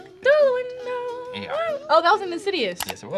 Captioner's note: hums